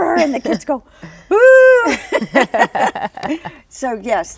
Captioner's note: laughs